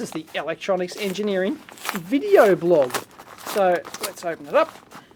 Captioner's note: packaging rustling